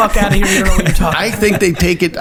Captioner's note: laughs